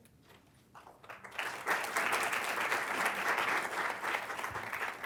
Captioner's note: applause